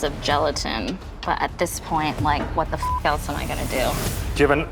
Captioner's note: beep